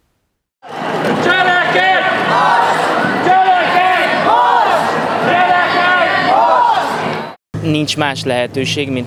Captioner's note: crowd chanting